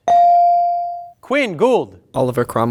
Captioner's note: bell ring